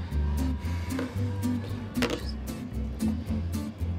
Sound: sighing

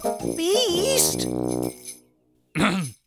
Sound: clearing of throat

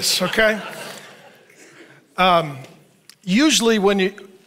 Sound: audience laughs

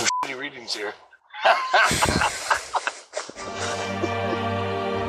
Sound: both men laughing

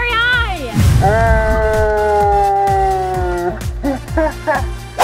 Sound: slow motion laughing

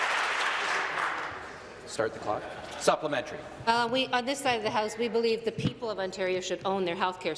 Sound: some Applause

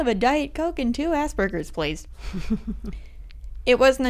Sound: laughter

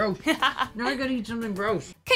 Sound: laughs

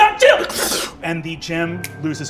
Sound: imitates magic sputtering

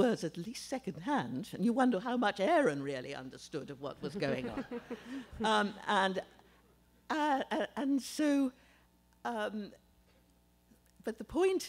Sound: laughter

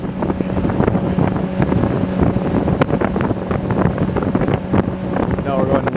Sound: boat engine rumbling

